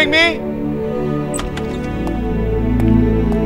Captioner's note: Door opens